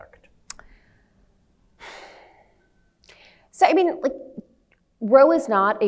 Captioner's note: sighs